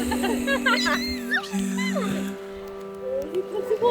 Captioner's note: women laughing; squealing